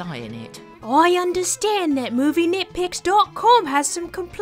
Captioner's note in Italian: imitando MRS. BRIC